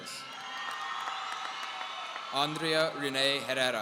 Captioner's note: audience cheering